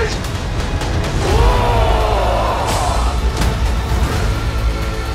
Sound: yelling

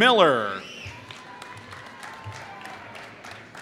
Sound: applause

